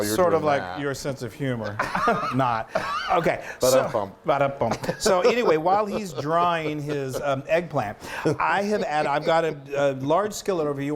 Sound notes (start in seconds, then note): 1.7 laughing